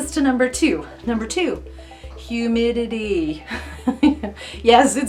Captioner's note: laughs lightly